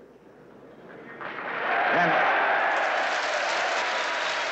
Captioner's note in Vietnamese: Tiếng reo hò, vỗ tay; Tiếng vỗ tay tiếp tục